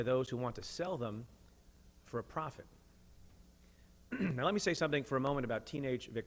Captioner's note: clears throat